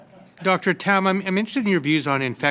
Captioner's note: laughter